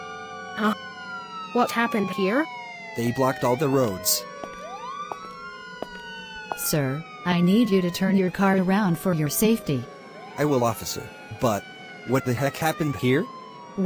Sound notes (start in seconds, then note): 3.1 footsteps